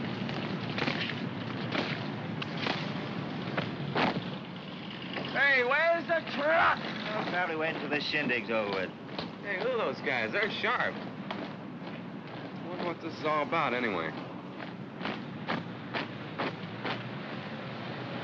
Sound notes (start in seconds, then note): 0.6 heels stomp; 14.4 feet marching; 17.2 vehicles rumble in distance